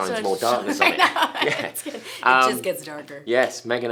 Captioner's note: laughing